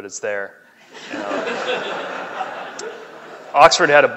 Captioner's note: laughing